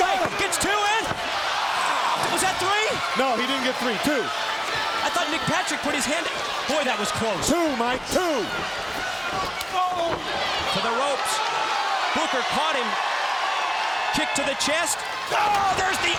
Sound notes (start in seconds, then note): 8.3 crowd cheering